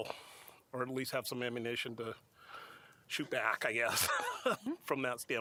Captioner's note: laughter